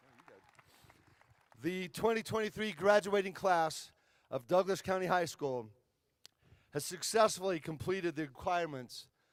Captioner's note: applause